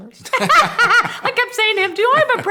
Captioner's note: laugh